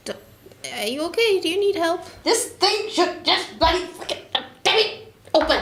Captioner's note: angered swearing